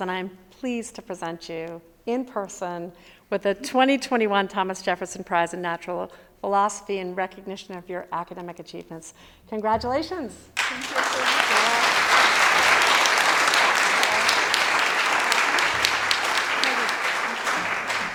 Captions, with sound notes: And I am pleased to present you, in person, with the 2021 Thomas Jefferson Prize in Natural Philosophy and recognition of your academic achievements, congratulations. - Thank you. (audience applauding)